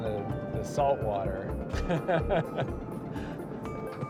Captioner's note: laughs